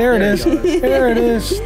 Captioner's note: laughs